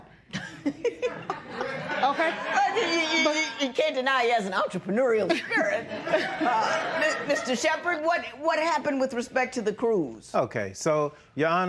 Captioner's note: laughter